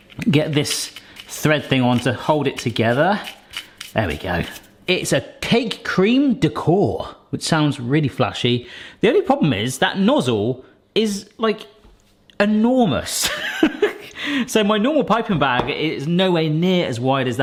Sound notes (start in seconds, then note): 13.3 laughs